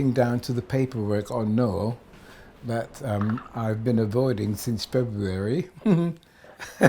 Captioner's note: giggles